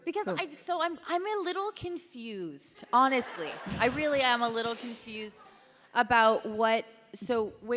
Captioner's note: laughter